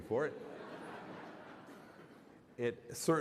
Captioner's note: laughter